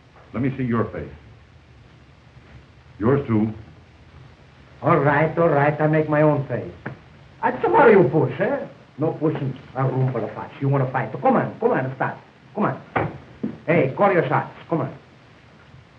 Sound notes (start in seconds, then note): none